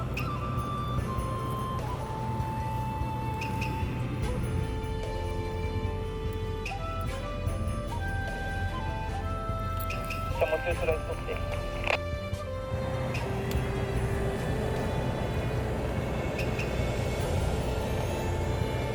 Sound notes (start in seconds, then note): 12.1 radio